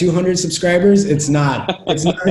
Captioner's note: laughing